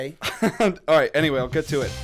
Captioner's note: chuckle